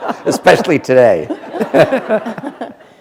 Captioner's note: laughter